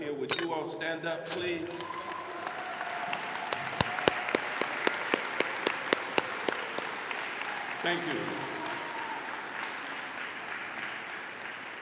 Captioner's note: applause